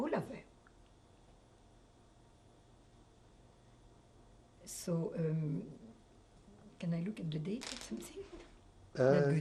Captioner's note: pauses for 3 seconds